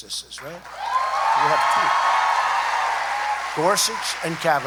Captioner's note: applause